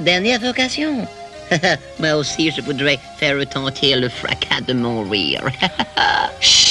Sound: chuckles

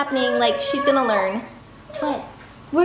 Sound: shouting

